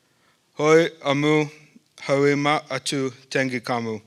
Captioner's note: speaking northern sierra miwok